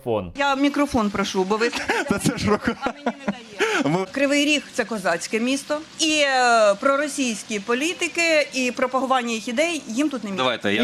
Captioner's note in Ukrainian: сміється